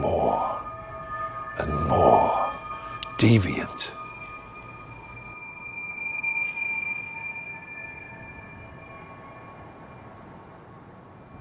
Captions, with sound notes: it got more and more deviant. (high frequency humming)